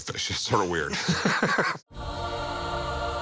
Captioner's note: laughter